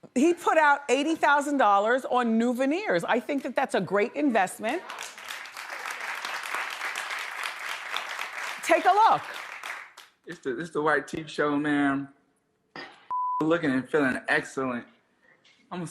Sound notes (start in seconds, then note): 4.8 audience applauds; 13.1 beep